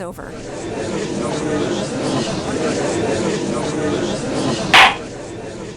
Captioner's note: gallery chattering; gavel slams!